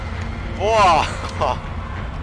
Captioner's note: nervous Laughter